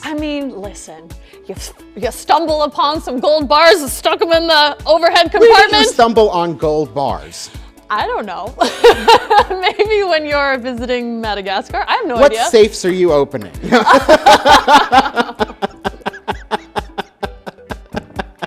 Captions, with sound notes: - I mean, listen, you stumble upon some gold bars and stock them in the overhead compartment? - Where would you stumble on gold bars? - I don't know. (laughs) Maybe when you're visiting Madagascar, I have no idea. - What safes are you opening? (all laughing)